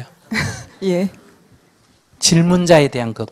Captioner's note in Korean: 질문자 웃음